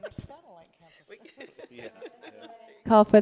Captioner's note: laughing